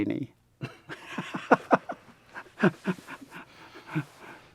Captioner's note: laughing